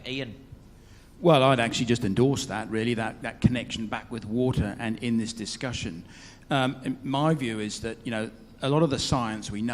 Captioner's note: none